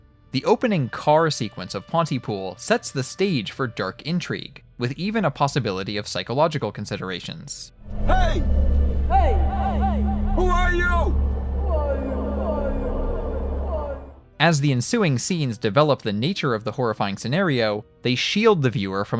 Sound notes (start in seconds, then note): 8.6 echoing; 11.8 echoing